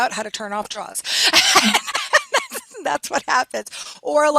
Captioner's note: laughing